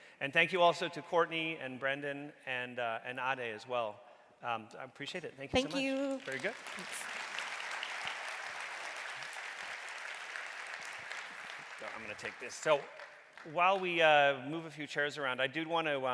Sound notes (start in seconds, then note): 7.6 audience clapping